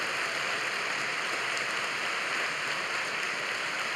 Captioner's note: applause